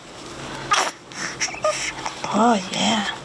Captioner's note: baby fussing